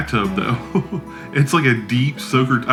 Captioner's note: laughs